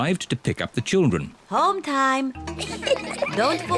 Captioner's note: children giggling